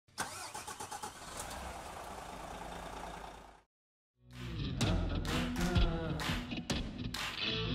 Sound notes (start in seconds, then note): 0.1 car engine starting; 4.3 upbeat music